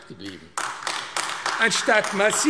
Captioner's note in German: Beifall AfD